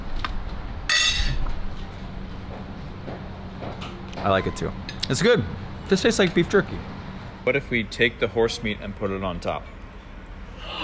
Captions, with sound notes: (cutlery clanging) I like it too, it's good. This tastes like beef jerky. What if we take the horse meat and put it on top?